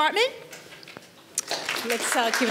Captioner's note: audience applauds